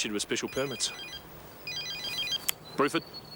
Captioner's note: phone ringing